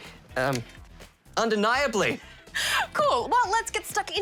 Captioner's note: laughs